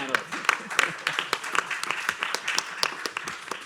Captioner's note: applause